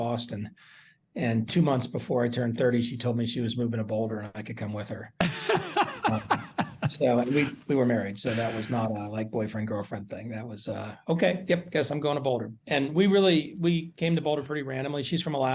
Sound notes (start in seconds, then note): 5.2 laughter